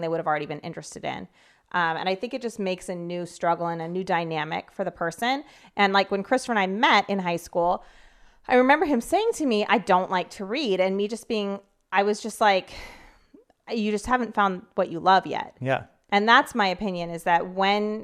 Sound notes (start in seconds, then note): none